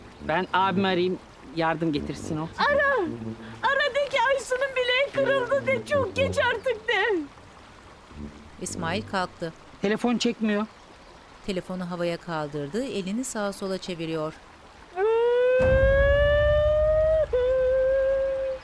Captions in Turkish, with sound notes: -Ben abimi arayayım, yardım getirsin o. -Ara. Ara, de ki Aysu'nun bileği kırıldı de. Çok geç artık de. Telefon çekmiyor. (Akarsu sesi) (Ağlama sesi)